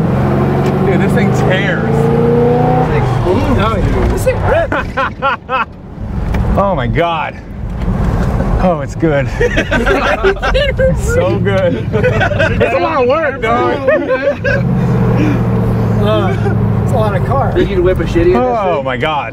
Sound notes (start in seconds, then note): 2.3 car revs; 4.4 laughs; 10.0 guys laugh